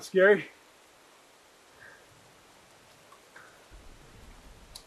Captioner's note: rain trickling in distance